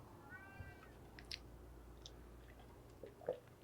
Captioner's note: cats meowing